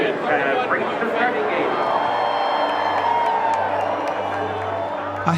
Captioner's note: cheering